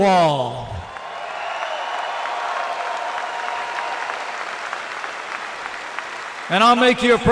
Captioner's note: applause